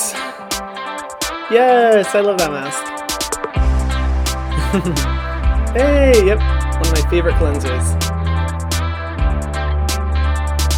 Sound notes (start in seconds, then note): 1.2 upbeat music; 4.5 laughs; 7.9 upbeat music